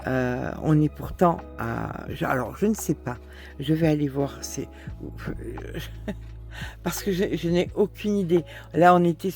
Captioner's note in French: rires